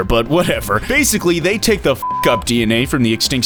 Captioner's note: beep